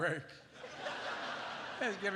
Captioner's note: laughter